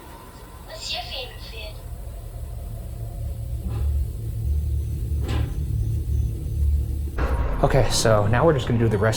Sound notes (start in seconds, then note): 3.2 dramatic eerie music; 4.1 wood thumping